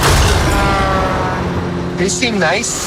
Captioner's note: horn honking